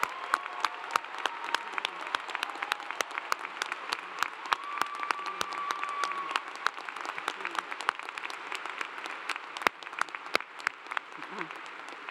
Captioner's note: applause